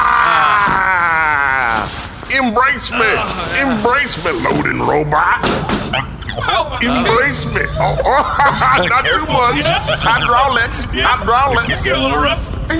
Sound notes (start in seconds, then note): 2.6 wordless noise of joyous exertion; 7.0 metal clanking; 8.1 laughing